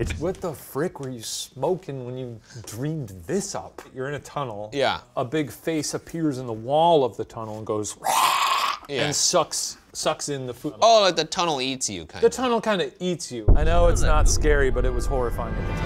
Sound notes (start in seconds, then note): 8.1 growls